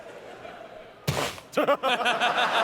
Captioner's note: crash sound; laughter